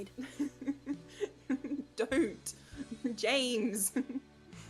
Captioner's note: Regulus giggles